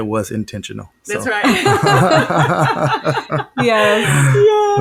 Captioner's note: laughing